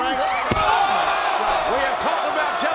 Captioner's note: body thuds